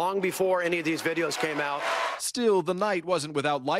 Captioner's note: cheers